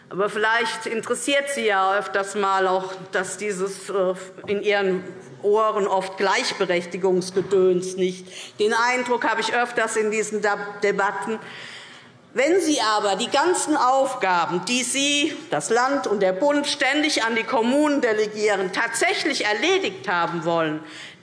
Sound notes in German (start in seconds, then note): none